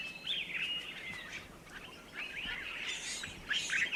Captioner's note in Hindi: चहचहाहट